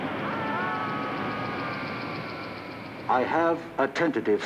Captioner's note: group yelling